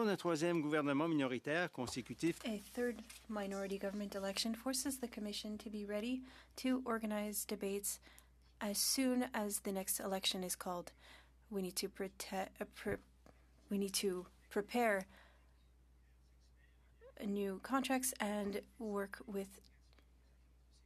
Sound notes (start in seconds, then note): 4.0 speaking French